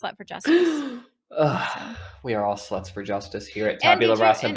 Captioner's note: dramatic sigh